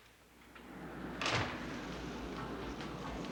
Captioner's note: door slams; wind howling